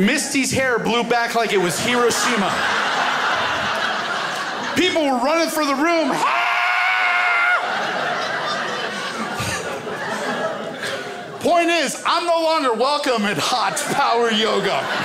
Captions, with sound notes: Misty's hair blew back like it was Hiroshima. (crowd laughs) People were running from the room. (screams) Point is, I'm no longer welcome at Hot Power Yoga.